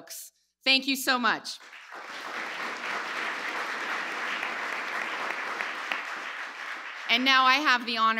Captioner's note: applause